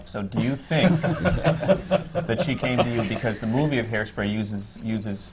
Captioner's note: laughter from the panel